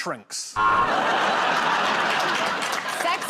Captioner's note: buzzer